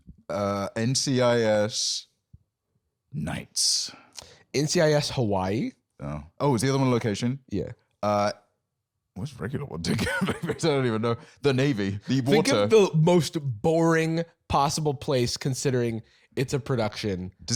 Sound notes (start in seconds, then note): 3.2 deep voice